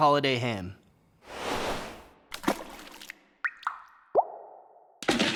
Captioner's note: water plopping and dripping